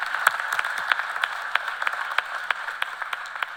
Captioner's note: cheers and applause